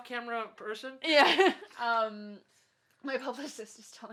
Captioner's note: laughs